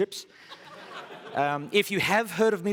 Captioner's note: laughter